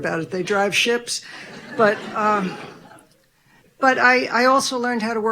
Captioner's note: audience laughing